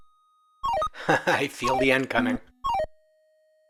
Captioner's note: laughs